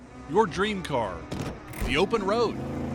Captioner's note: gear shifting